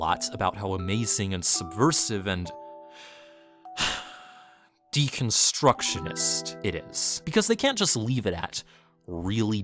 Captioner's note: sigh